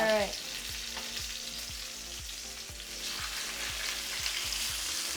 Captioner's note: pork chops sizzling